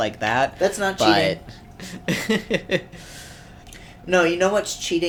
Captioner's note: laughs awkwardly